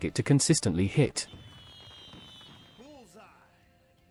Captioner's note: fireworks popping